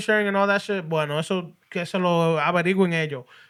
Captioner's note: speaking Spanish